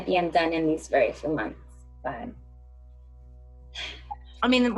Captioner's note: sighs